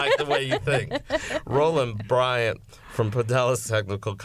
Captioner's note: laughter